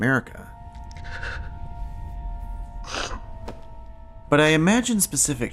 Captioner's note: sobs